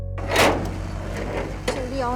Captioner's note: door opens